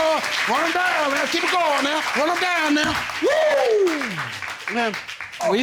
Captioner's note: cheers